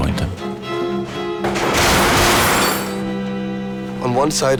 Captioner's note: loud banging